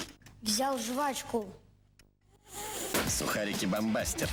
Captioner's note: crunches; popping